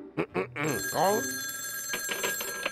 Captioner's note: phone ringing